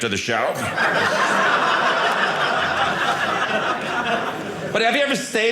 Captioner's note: audience laughing